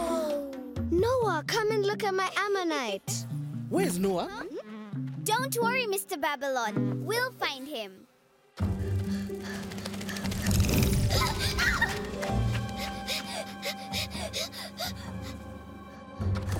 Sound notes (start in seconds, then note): 8.2 panting; 10.2 squeaking; 10.9 gasping; 12.4 panting